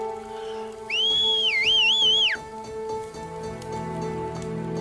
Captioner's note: sister whistling